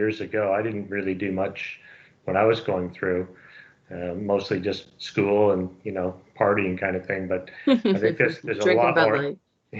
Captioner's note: laughs